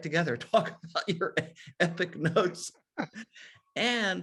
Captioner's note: chuckles